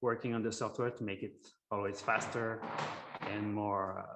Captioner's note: object rustling